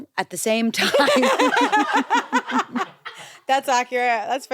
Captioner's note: everyone laughs